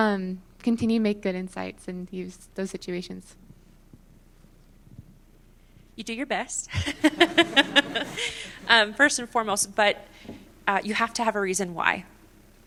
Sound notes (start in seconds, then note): 6.7 laughter